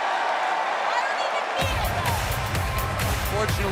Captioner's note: fans chanting